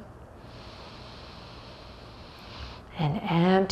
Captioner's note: deeply inhales